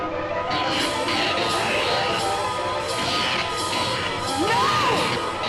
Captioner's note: electric zapping